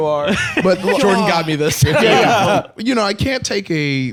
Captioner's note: laughs